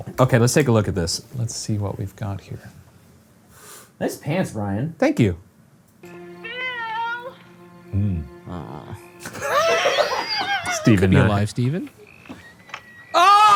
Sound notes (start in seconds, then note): 7.9 moans; 9.2 laugh; 13.1 screams